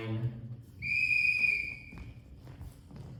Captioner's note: whistle blows